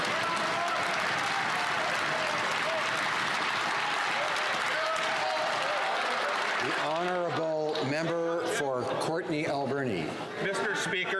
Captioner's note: some Applause